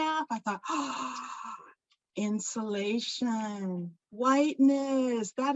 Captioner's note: gasps